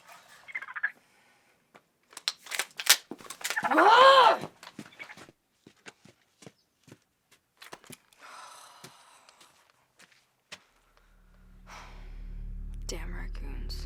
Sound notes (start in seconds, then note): 0.2 raccoon chittering; 3.5 raccoon chitters; 3.6 growls in frustration; 8.2 sighs; 11.6 sighs